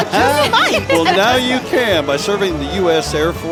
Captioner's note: laughing